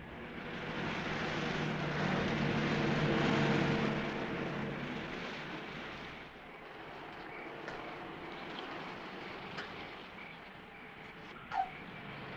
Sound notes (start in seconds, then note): 0.2 car engine rumbling; 8.1 insects chirping